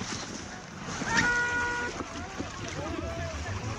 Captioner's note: horn blowing, men shouting